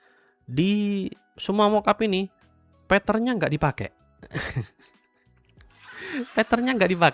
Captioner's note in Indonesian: tertawa